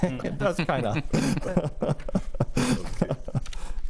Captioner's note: everyone laughing